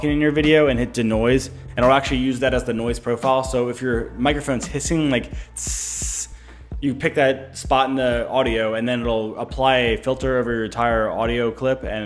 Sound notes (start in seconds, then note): 5.5 hissing